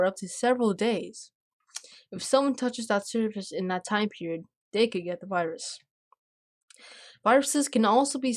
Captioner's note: click